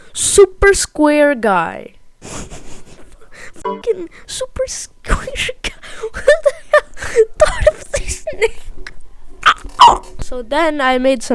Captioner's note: choking